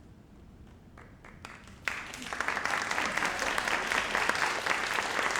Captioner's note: audience applauds